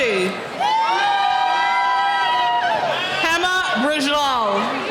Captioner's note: cheering